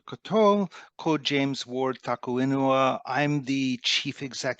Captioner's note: speaks te Reo Māori